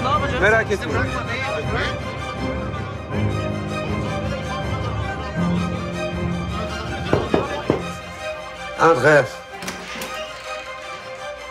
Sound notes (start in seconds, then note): 1.8 tension music continues; 7.0 knock on door; 8.4 speaks French